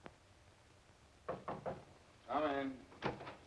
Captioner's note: knock